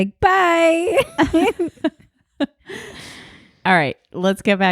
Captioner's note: laughing